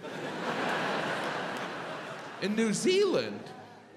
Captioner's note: audience laughs